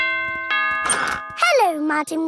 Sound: doorbell rings

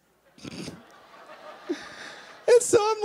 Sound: laughing

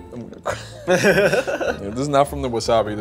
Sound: both laughing

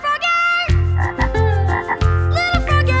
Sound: croaking

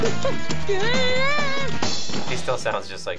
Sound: Chuckie yells

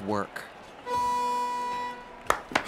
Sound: start signal sounds; clapping

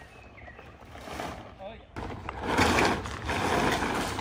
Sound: tarp rustling

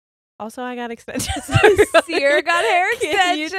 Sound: both laugh

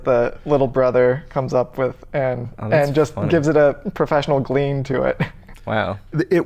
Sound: chuckles

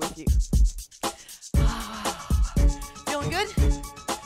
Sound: heavy sigh

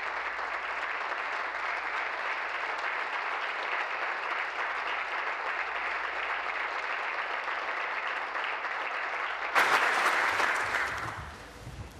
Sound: applause

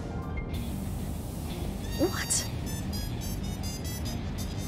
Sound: whispers

